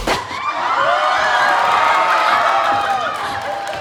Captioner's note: cheering